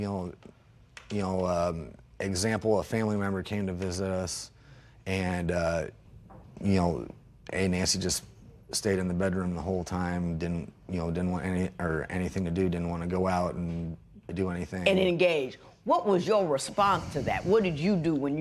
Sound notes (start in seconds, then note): none